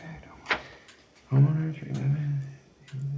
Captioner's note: murmuring